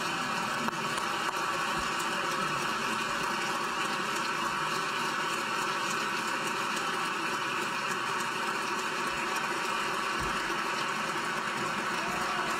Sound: applause

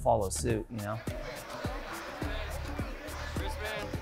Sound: people chattering

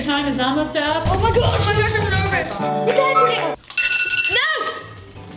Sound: exclaiming

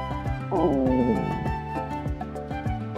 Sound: growl

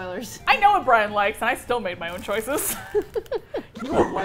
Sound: laughing

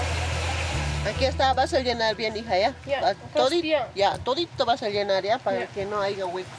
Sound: speaking in foreign language

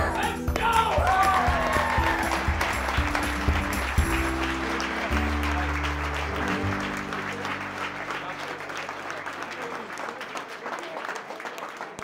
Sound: cheering

